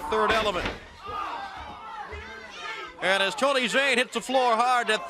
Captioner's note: crowd chatter